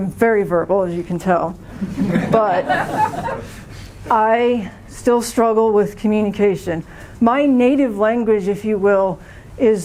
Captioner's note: laughter